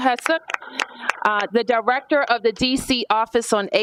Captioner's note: applause